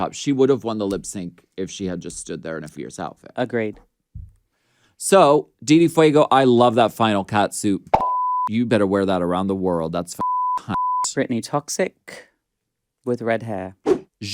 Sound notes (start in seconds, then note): 8.0 beep; 10.2 beep